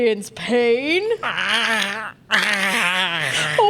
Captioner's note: pained gurgling